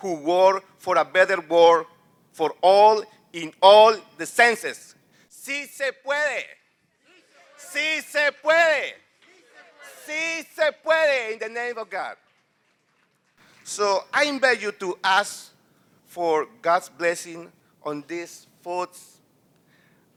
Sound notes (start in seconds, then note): 5.2 non-english speech